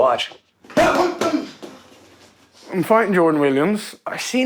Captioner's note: grunting